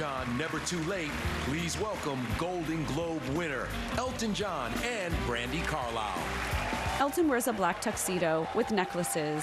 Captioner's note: applause